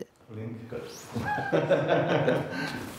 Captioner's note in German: Beide lachen